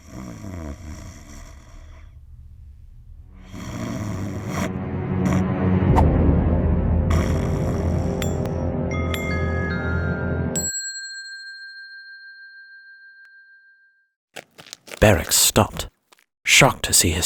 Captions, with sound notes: (Sisera snoring) (ominous music) (bell dings) Barak stopped, shocked to see